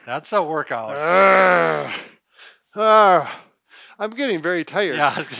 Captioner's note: growling